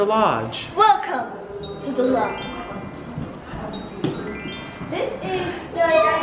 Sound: magical twinkling

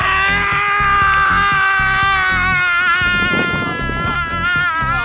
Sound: roaring like a lion

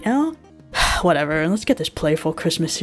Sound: sigh

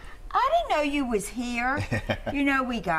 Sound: laughter

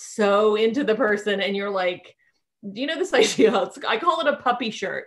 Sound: laughing

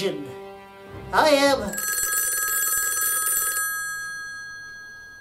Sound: phone rings

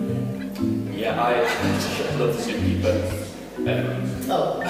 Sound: laughs

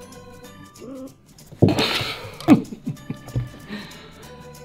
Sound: laughs

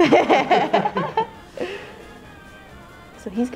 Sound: laughing

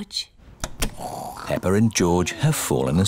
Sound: snoring

